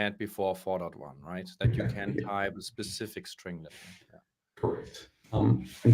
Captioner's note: murmurs